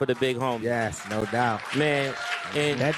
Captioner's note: cheers and applause